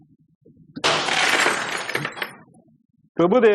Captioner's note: glass shatters